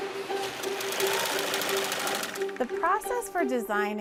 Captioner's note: humming of sewing machine